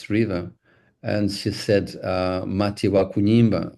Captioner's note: Mia speaking in foreign language